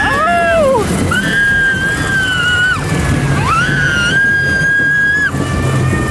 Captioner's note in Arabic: صرخات